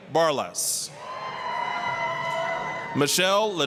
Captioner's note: applause, cheering